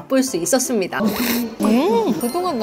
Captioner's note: new product, chomp